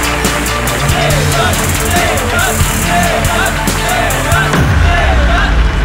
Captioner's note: Chanting